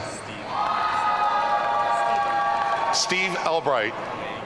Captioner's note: audience cheering